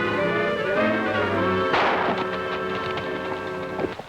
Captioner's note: gun firing